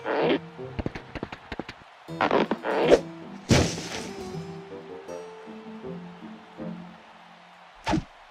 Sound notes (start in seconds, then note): 3.5 falling noise; 5.0 distant cheers and applause